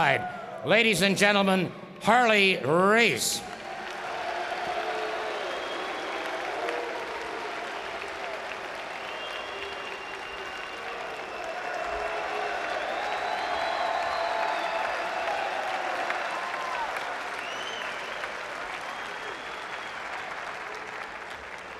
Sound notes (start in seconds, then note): 9.3 applause